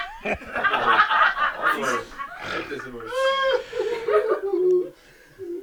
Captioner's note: laughter